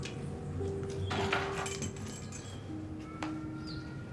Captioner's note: keys jangling